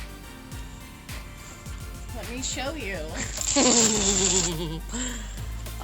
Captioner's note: laughs